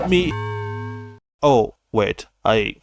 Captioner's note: rip sfx